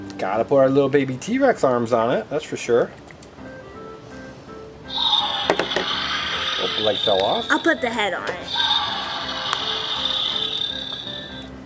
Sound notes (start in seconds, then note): 3.8 upbeat music; 4.9 dinosaur growls